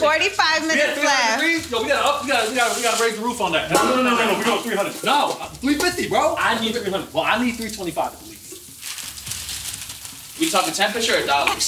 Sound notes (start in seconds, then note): 0.5 laughing; 9.0 wrap crinkles